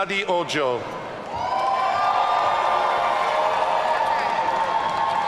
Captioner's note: audience cheering